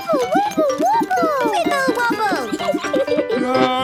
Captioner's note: giggles